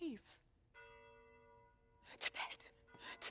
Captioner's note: bells toll